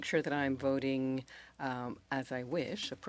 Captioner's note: speaking French